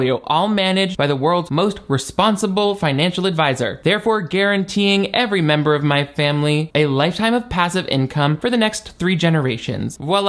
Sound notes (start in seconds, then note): none